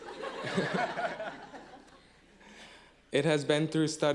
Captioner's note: laughing